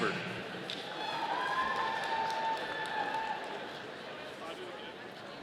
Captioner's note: audience cheering